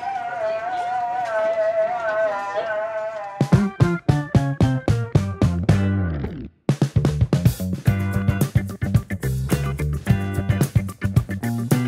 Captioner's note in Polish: Aplauz